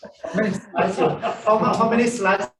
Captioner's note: laughter